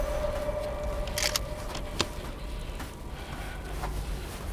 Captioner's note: gun loading